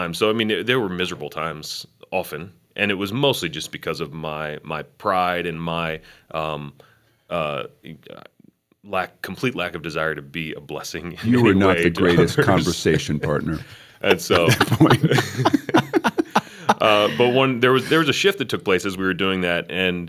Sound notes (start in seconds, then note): 11.3 chuckle; 14.1 laughter